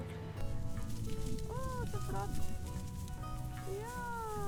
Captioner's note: speaking Norwegian